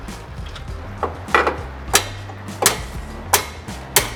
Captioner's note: hammering